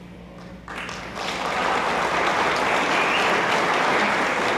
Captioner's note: attendees applauding